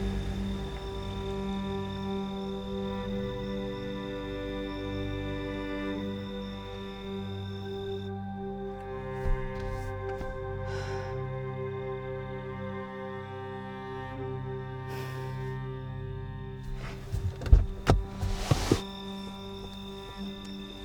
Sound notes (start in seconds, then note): 0.3 pensive music; 6.5 pensive music continues; 10.7 Rachel sighs; 16.7 door clicks